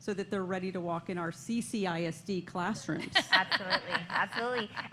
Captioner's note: laughter